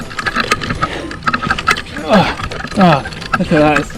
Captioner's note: more grunting